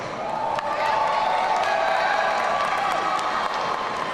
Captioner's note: audience cheering